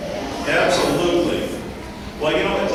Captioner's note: audience responding